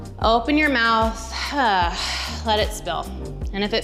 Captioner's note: exhales